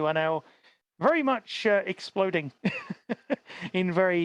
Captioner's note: laughs